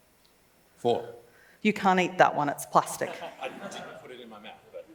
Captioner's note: laughs